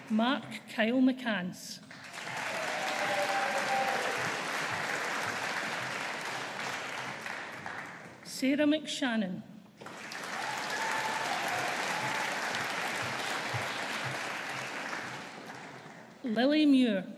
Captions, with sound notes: Mark Kyle McCance. (AUDIENCE APPLAUDING) Sarah McShannon. (AUDIENCE APPLAUDING) Lily Muir.